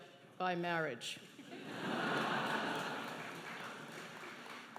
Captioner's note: laughing